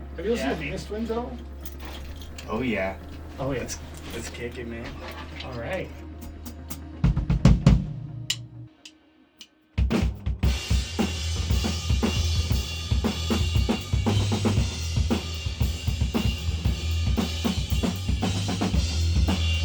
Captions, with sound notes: Have you seen Venus Twins at all? Oh, yeah. Let’s kick it man. All right. (drumsticks clapping) (rock music) (rock music)